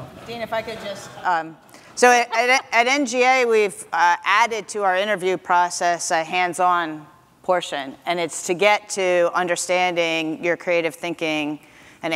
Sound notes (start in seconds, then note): 2.0 laughs